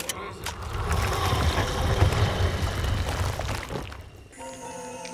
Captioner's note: guns clicking; eerie music